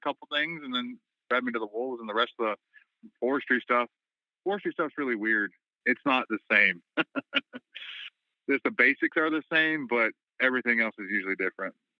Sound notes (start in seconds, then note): 6.8 laughter